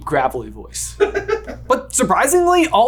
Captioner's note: laughing